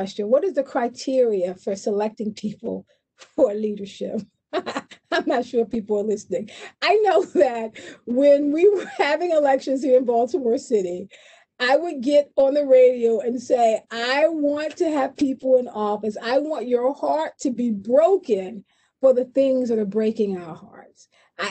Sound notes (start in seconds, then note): 4.6 laughs